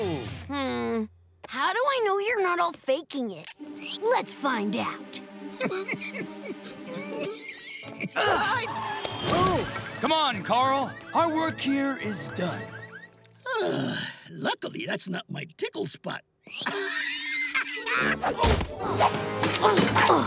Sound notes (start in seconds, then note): 5.5 laughing; 13.4 sighing; 16.5 laughing